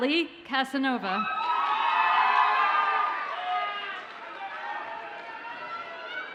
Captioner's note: audience cheers and applauds